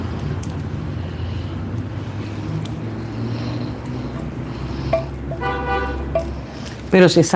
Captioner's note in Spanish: resoplido